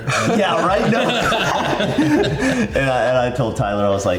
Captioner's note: everyone laughs